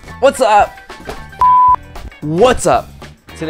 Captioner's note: beep